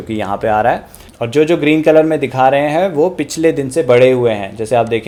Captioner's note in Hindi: नाक से की जाने वाली आवाज़